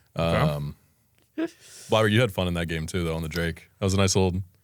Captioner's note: laughs